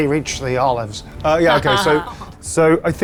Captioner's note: group laughs